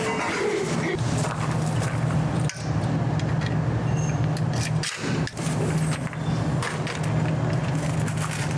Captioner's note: ugh